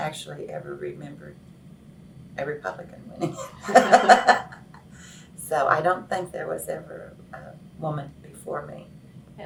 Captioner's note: laughs